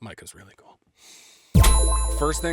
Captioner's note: bell tings